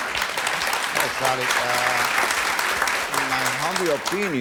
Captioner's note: audience applause